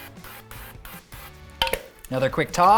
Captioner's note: oil spraying